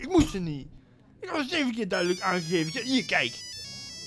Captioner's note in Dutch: ringtone